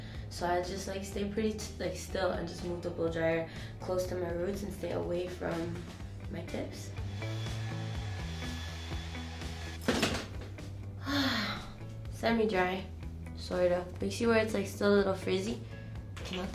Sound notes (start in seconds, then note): 7.0 blow drying; 11.0 sighs